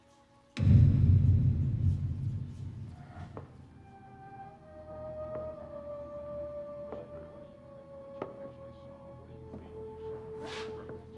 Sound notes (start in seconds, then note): 7.3 people chattering